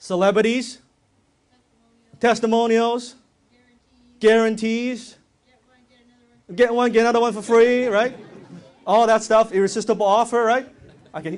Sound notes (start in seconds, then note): 7.3 audience laughs